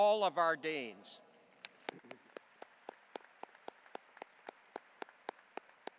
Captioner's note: audience applauding